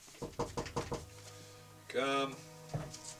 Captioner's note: knocking